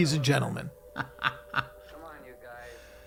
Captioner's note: laughing